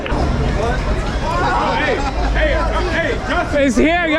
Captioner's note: cheering